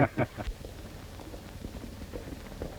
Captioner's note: laughter